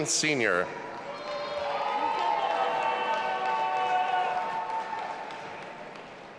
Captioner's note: audience applauding and cheering